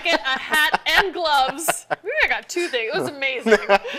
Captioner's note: laughing